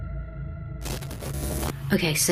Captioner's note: static zapping